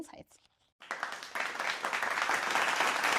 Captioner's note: applause